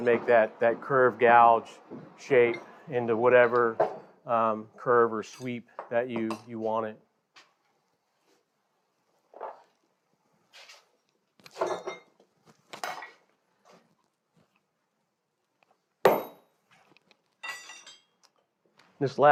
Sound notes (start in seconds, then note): 11.4 tools clatter; 17.4 metal clangs